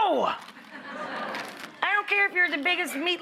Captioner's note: audience laughing